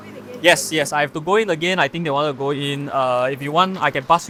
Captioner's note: nervous rambling